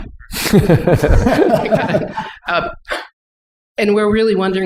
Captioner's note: laughter